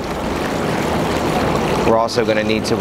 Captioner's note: water sloshing